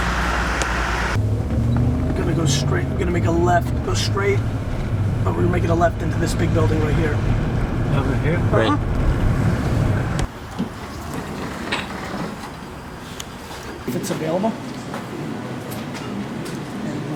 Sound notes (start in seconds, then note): 8.2 voiceover